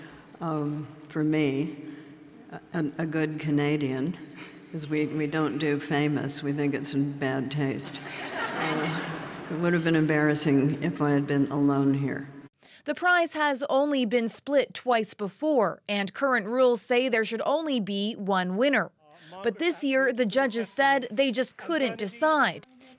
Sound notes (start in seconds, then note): 8.0 laughter